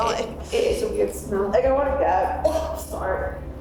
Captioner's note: coughs